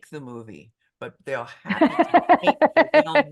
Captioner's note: laughing